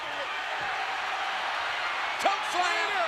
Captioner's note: audience cheering